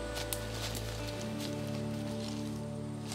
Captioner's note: leaves rustle